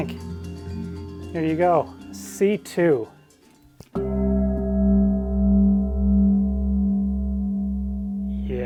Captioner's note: bell rings